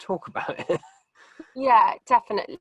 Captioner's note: chuckles